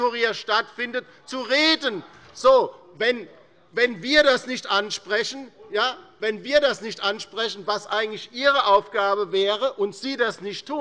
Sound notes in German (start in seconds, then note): 1.3 Zurufe von der CDU